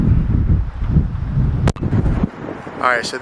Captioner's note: wind howling